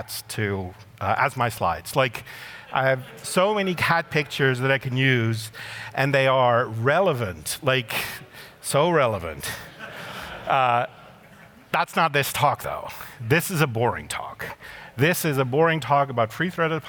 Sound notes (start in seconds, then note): 1.9 laughter